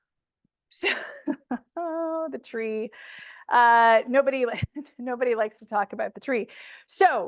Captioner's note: chuckles